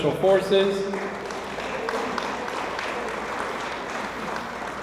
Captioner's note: audience applauds